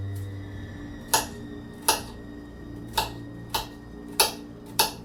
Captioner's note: knife thuds; eerie dramatic music continues